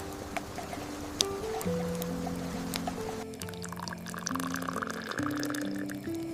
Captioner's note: a spoon turning inside the clay pot